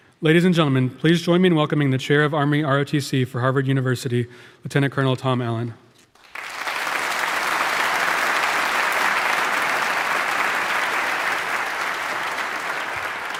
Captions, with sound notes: Ladies and gentlemen, please join me in welcoming the chair of Army ROTC for Harvard University, Lieutenant Colonel Tom Allen. (audience applauding)